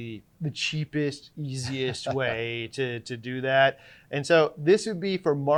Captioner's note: laughing